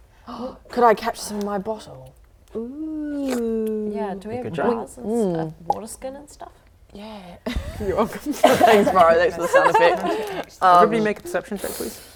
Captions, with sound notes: *gasp* Could I catch them in my bottle? Ooh *slurp* Yeah, do we have jars and water skin and stuff? *pop* Yeah You're welcome Thanks bro, thanks for the sound effect Everybody make a perception check please?